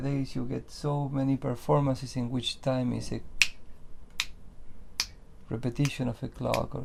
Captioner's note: snaps fingers